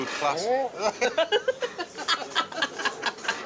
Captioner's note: laughs